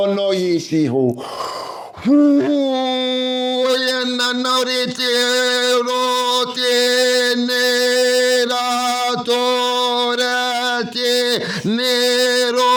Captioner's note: non-english speech